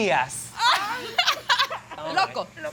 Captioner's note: laughs